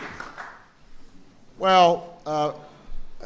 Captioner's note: applause